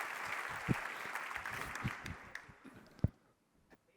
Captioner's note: applause